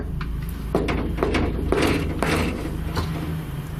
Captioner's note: loud knocking